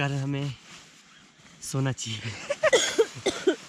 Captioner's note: laughter